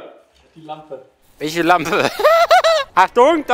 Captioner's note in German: lacht